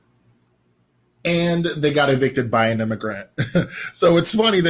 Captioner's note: laugh